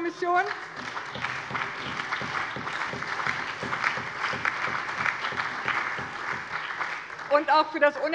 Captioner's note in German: Allgemeiner Beifall